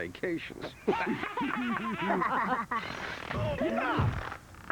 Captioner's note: laughing